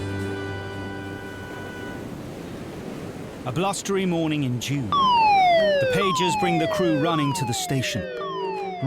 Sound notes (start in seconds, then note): 1.9 blustery wind blowing; 4.9 siren blaring